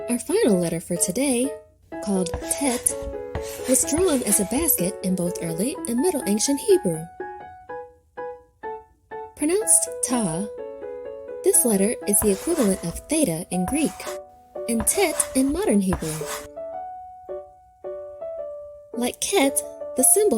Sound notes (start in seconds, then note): 2.2 chalk scratching; 14.7 chalk scratching; 17.2 pensive piano music